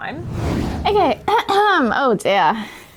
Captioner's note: clears throat